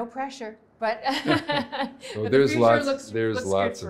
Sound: laughing

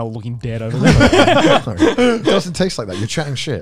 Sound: laughing

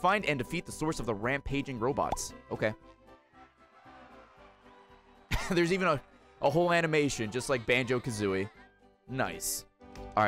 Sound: laughs

